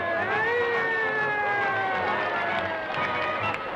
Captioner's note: sirens blaring